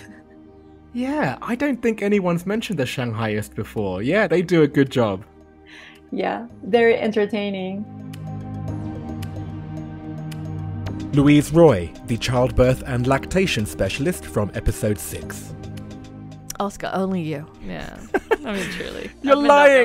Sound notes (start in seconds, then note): 8.4 voiceover